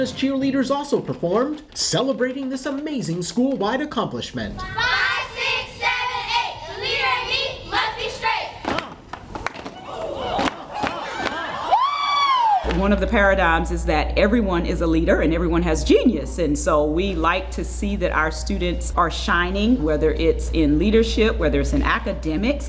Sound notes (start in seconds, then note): 6.8 cheering